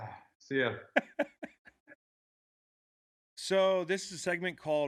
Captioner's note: laughing